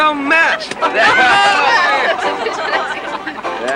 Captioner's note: all laughing